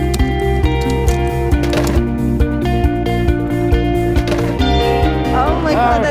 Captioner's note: Coke tumbling from machine